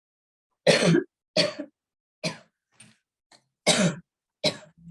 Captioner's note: coughs